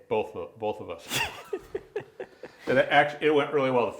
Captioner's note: both laughing